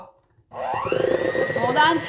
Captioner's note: mixer whirring